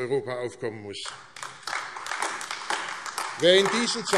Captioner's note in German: Beifall AfD